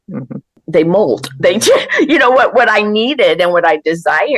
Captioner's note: laughs